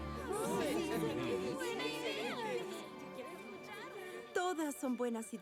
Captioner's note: agreement chatter